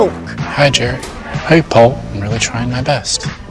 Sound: imitating jerry's voice

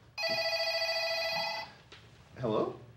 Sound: phone ringing

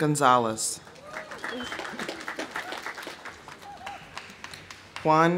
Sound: audience applauding; audience cheering

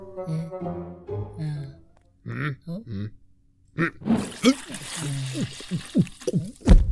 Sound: chugging soup; funky music

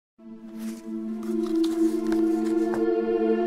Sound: paper crinkling

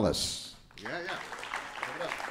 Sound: audience applauding

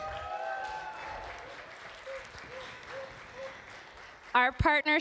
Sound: applause

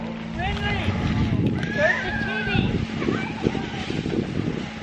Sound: distant yelling

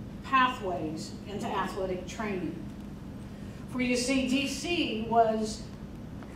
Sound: none

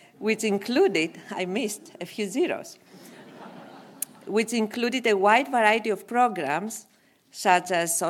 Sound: laugh

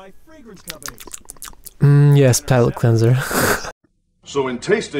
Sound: nom nom nom

